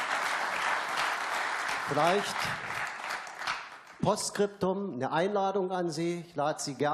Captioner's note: applause